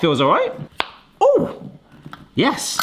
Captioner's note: jar cap pops